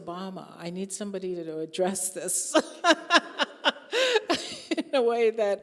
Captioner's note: laughing